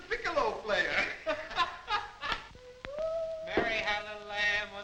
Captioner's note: guard laughs